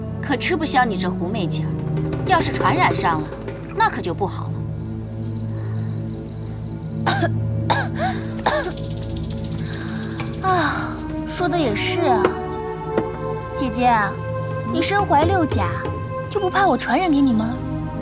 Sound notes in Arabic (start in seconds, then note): 7.6 سعال، سعال، سعال